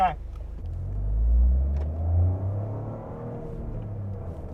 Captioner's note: engine raging